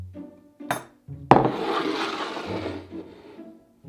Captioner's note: bowl sliding